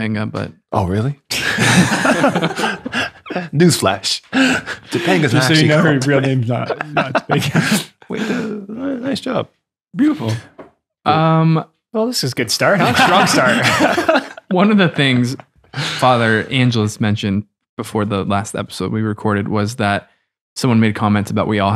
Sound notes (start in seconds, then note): 1.4 laughing; 12.7 friars laugh